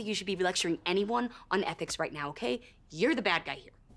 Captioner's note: none